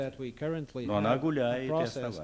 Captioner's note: non-english speech